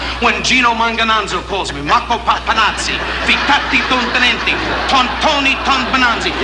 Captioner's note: imitating Italian language